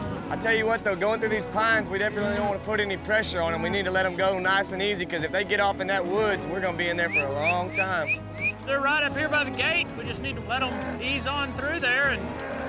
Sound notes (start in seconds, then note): 7.0 whistling